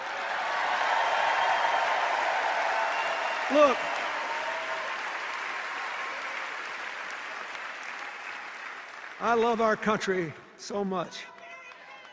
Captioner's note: cheers and applause